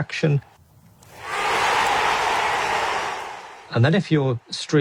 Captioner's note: crowd cheering